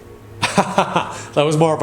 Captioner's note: laughing